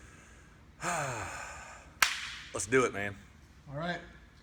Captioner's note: sighs